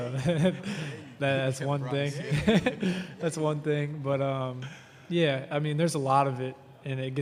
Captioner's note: laughter